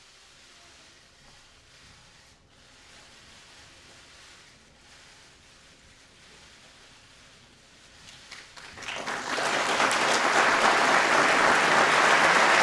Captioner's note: applause